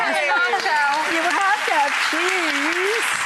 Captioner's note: audience applause